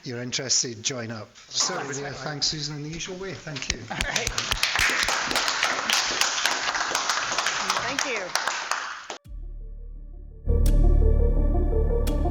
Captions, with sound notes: You're interested, join up. So yeah, thanks Susan, in the usual way, thank you. All right. (audience applauding) Thank you. (upbeat music)